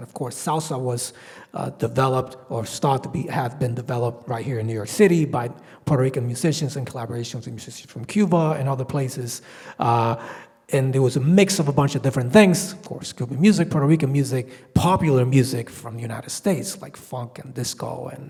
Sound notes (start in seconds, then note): none